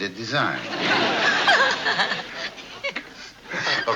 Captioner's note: laughs